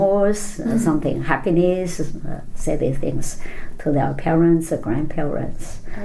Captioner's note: laughs